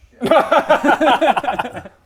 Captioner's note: demanding boss laugh